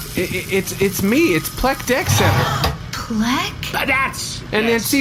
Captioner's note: excited